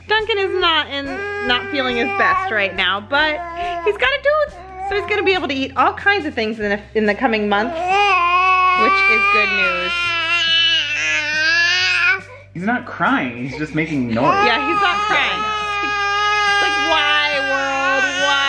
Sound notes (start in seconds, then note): 7.7 baby gibberish; 16.1 whining